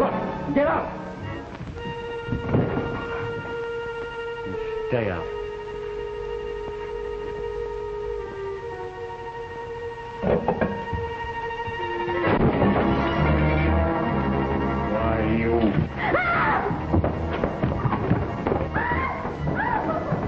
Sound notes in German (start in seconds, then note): 12.3 Glas zersplittert; 18.7 Frau schreit